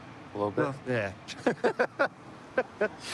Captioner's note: laughter